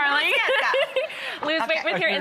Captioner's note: laughs